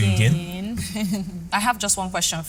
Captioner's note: laughs